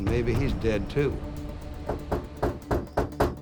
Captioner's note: knocking on door